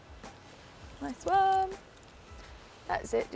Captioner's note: sing-song